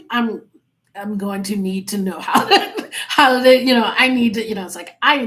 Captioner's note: laughing